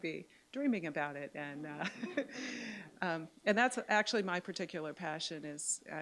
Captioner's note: light laughter